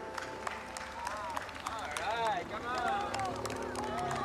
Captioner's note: cheering